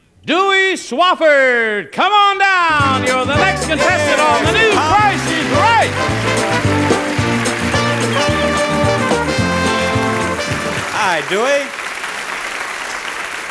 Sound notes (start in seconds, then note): 3.6 theme music plays; 6.4 audience applauds; 6.4 cheerful music